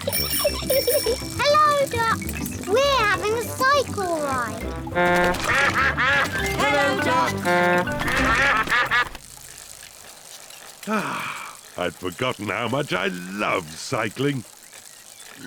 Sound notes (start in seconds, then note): 0.0 giggles; 4.2 toots horn; 4.4 all quack; 10.8 sighs happily